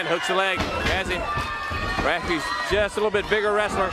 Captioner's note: crowd cheering